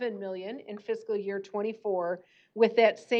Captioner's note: none